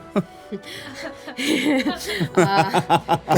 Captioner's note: laughing